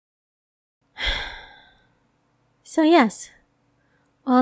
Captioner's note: sighs